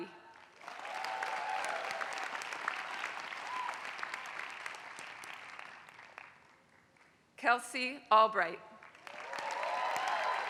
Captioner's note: applause; applause